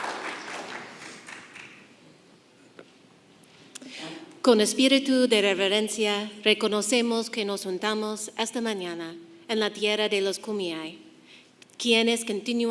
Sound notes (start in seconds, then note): 4.4 woman speaking in foreign language